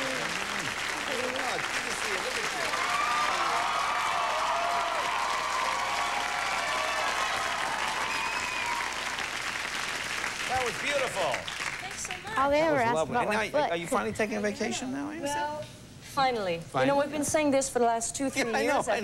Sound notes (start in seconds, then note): 6.4 cheers and applause